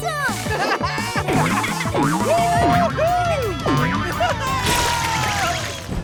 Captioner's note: laughing